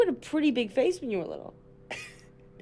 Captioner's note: chuckles